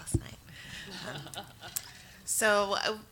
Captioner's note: audience laughs